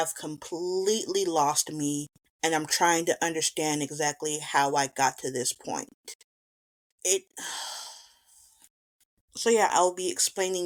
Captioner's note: beleagured sigh